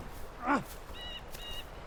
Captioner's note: groaning